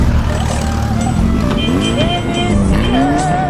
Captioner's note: fierce Lada honking